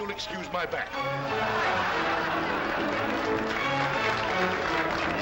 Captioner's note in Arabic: يتم تشغيل موسيقى كان كان; ضحك وتصفيق; يتم تشغيل موسيقى كان كان